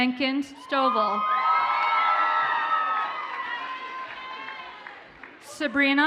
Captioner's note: audience cheers and applauds